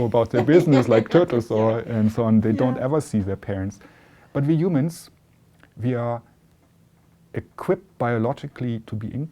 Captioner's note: laughter